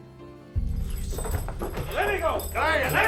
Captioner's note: soft tense music; spurs clattering